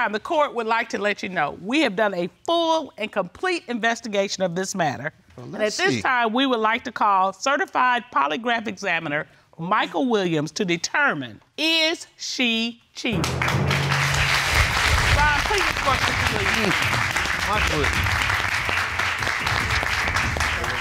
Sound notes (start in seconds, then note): 14.2 audience applauding